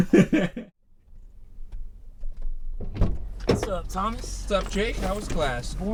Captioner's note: Thomas laughs